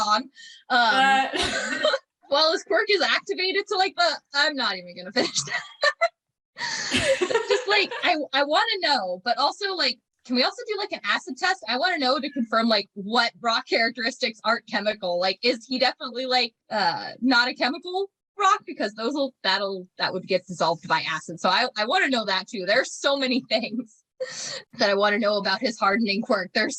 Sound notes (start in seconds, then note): 1.3 laughter; 6.6 wheeze